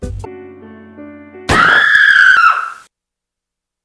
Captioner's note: scream